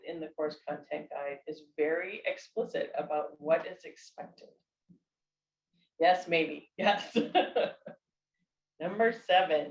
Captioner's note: laughter